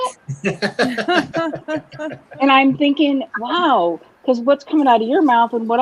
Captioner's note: laughter